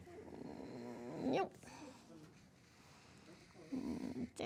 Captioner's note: students chattering faintly